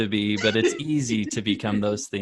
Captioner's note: laughs